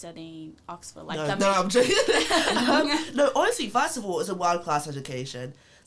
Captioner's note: laughs